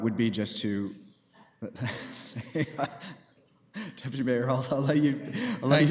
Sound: laughing

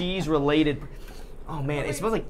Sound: sniffing

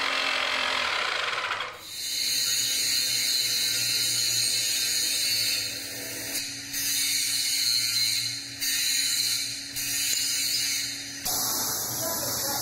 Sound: drill

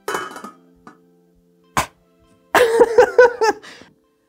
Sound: laughing

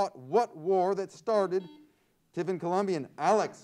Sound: buzzer sounds

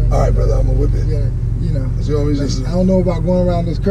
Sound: murmurs

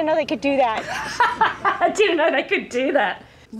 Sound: laughs

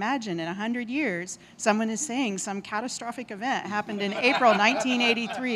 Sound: laughter

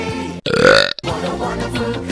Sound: Ratburn burps

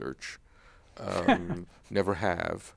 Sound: laughs

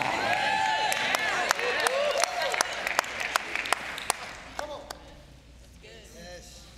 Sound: congregation cheering and clapping

